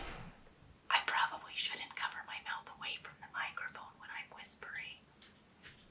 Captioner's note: whispered but louder